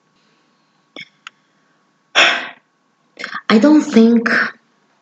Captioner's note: breath